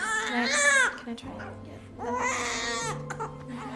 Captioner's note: crying